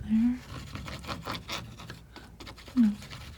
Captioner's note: scratching